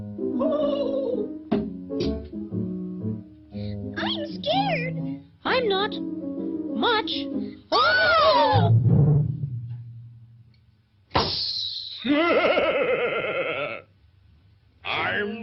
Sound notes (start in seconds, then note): 0.6 balloon whimpers and thuds; 7.7 both cry out; 11.1 balloon pops; 11.1 air hisses; 12.0 Pin Cushion Man laughs